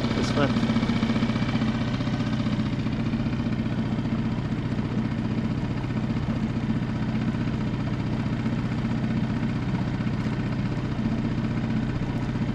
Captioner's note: engine sound